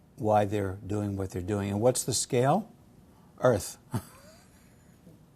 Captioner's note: laugh